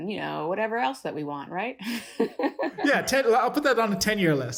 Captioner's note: laughter